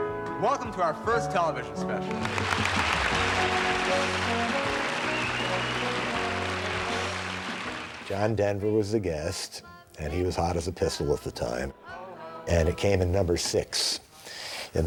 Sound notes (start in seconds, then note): 2.0 applause